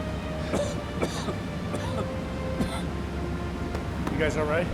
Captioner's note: coughing